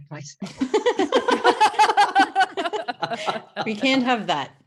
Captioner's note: all laugh